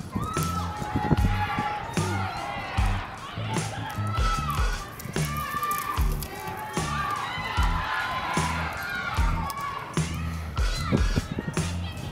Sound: cheering

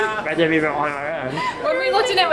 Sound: laughs

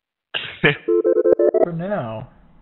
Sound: phone rings

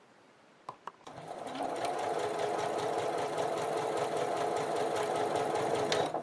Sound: sewing machine stitching

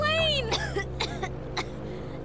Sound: coughs

